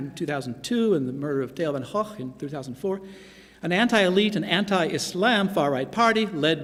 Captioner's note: non-english speech